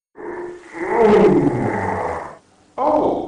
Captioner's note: yawning